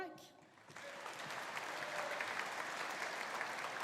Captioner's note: audience applauding